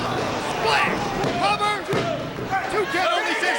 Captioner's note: hand pounding